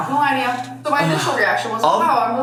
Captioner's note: sighing